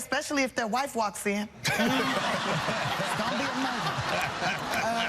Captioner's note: audience cheering